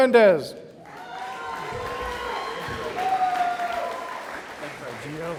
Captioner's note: audience applauding